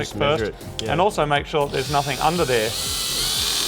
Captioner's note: battery-powered drill